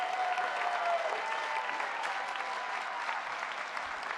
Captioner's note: cheering